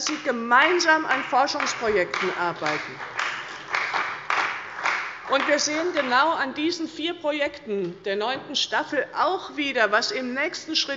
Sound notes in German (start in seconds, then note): 2.7 Beifall bei Abgeordneten der CDU